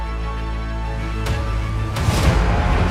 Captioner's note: airplane buzzing